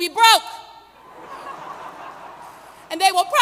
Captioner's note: laughter